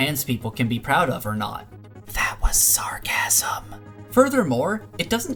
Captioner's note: whispering